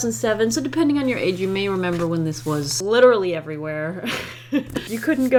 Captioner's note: laughs